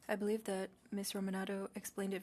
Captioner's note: speaking French